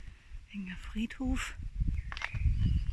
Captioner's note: birdsong